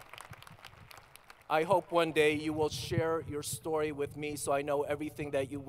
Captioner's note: applause